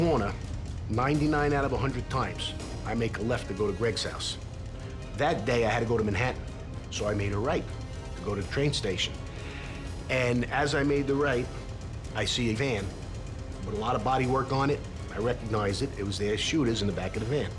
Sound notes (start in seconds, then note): none